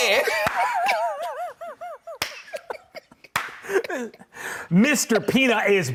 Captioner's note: both laughing